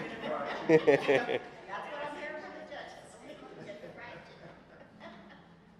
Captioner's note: laughter; laughter